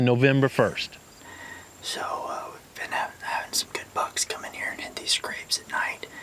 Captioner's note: whispering